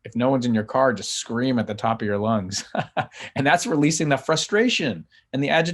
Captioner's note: laughs